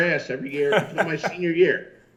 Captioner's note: laughs